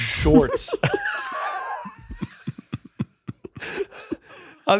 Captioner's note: all laughing